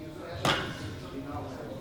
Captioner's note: clanking